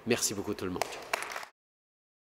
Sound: applause

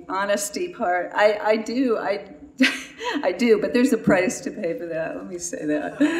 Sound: laughs; laughter

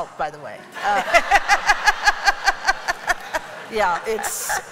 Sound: laughter

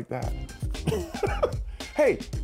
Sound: laughs

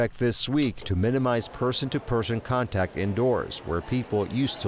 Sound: people chattering

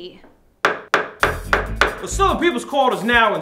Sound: gavel banging

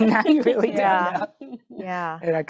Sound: laughing

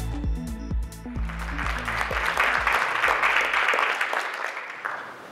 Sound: audience applauding

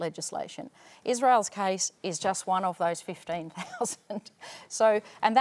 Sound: laughs

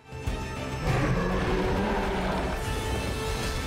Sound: roars

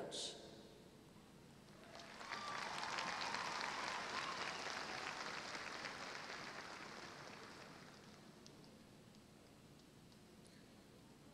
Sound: applause

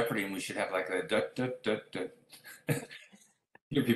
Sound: humming song

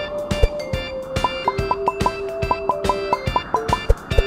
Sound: popping

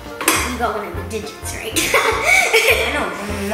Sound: laughs

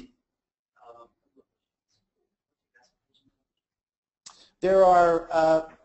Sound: faintly speaks

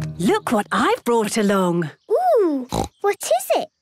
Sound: snorting

